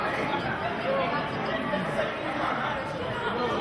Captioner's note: chattering